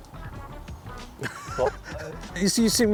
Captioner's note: laughs